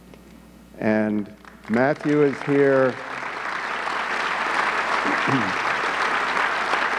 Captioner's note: audience clapping